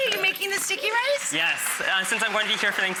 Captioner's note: audience cheers